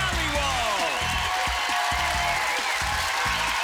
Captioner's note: applause